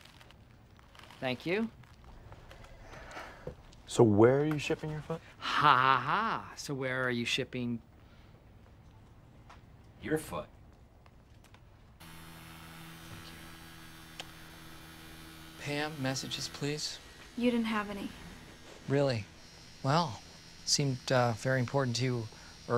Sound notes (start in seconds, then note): 11.7 fan buzzing